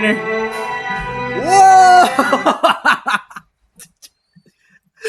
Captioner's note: musical scale; laughs